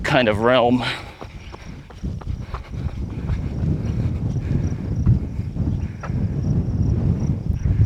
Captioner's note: wind